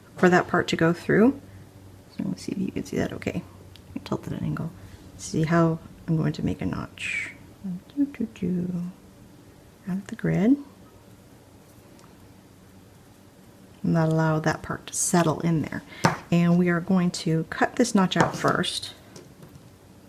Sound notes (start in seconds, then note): 8.2 hums